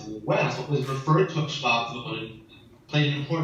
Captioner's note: in foreign language